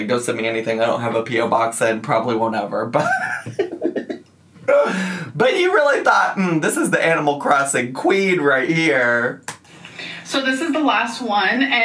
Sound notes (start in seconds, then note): 3.0 laughs